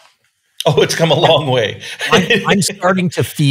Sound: laughing

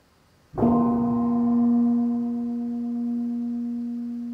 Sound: gong bell

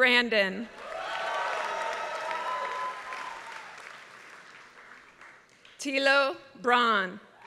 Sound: applause

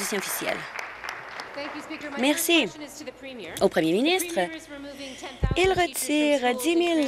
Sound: applause

